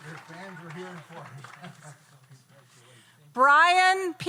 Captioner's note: laughs